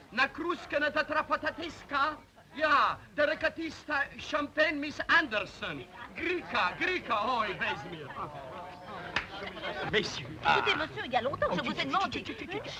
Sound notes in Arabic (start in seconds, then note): 0.2 بوريس يتحدث بلغة أجنبية; 6.1 بوريس يتحدث بلغة أجنبية; 11.2 امرأة تثرثر